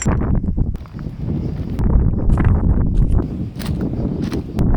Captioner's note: wind blowing